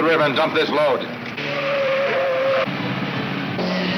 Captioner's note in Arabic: اصوات صرير الاطارات